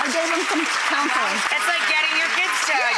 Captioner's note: audience clapping